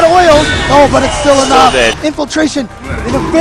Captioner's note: game SFX